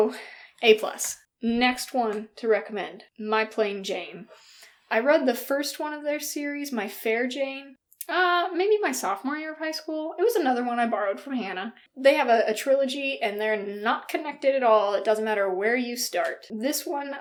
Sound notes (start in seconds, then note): none